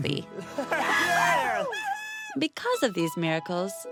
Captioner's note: cheering